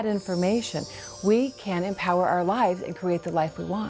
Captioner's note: bells chiming